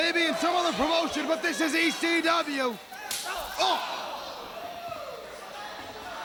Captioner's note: crowd cheering